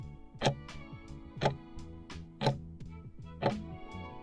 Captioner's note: timer ticking